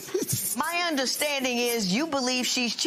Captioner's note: laughs